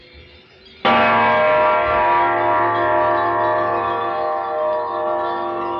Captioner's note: gong clanging